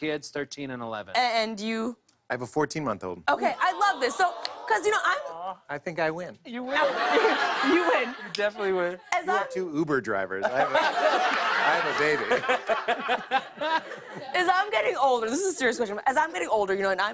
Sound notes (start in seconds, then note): 3.5 audience "Awws"; 10.4 laughter